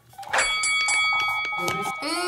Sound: bell rings

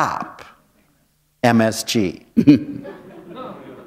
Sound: laughter

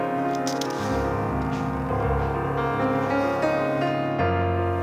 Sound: soft piano music; pages turning; soft piano music

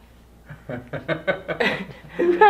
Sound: laughs

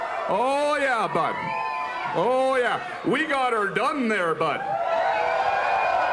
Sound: cheering

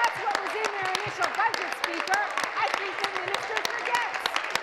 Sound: applause

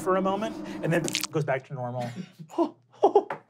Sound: squishes; laughing

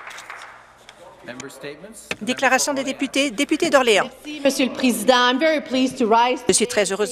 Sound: applause

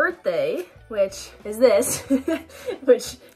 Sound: laughing

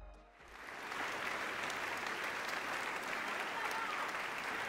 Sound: audience clapping

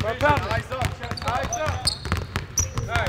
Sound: balls bouncing

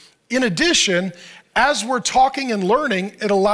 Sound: none

